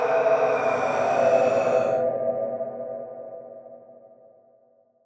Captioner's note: person screaming; creature roaring